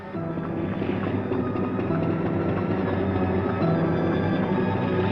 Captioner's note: machinery whirring